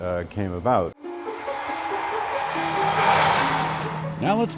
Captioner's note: jet whooshing